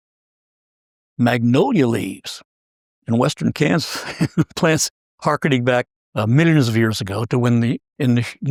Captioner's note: laugh